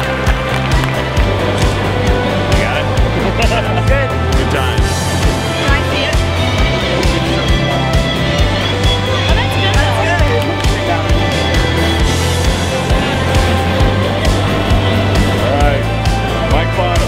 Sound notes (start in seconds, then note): 3.1 laughter